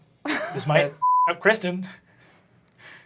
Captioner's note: laughing; beeping